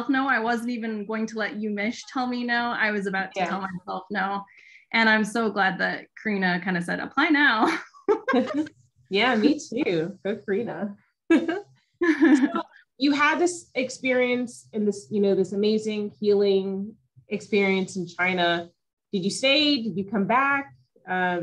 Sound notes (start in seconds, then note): 7.6 giggling; 12.0 chuckling